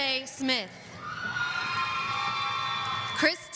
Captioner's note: audience cheering